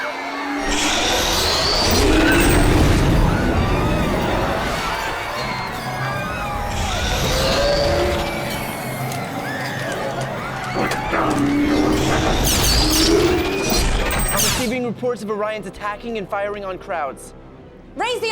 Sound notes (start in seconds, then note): 0.2 crowd screaming; 9.6 screaming